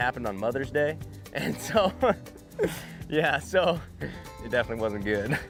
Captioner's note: laughs